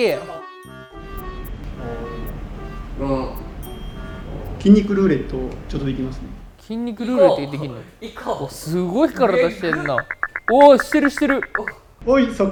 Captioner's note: imitates a famous Japanese comedian